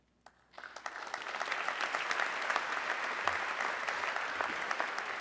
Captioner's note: audience clapping